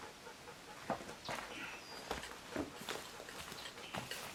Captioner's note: panting